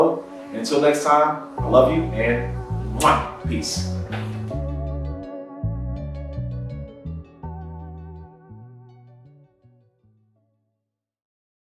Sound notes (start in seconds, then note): 4.0 mwah